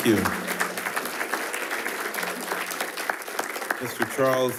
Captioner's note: attendees applauding